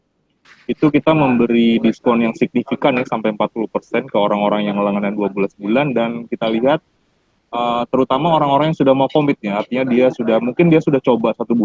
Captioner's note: speaking indonesian